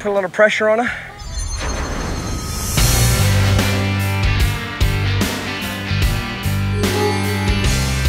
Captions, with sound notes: don't put a lot of pressure on her. (shimmering) (determined country music)